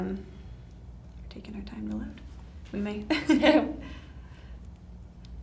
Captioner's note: both laughing